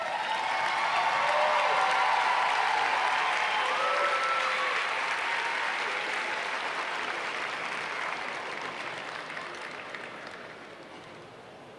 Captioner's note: applause